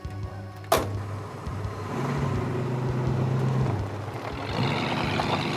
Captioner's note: car engine revving